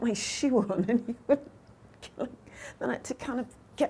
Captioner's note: chuckling